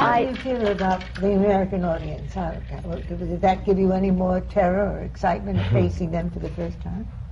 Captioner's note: she laughs